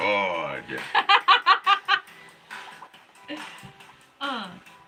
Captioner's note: laughing